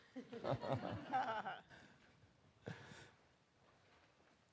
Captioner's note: everyone laughs